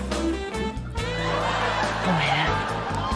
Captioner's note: sultry music; laughter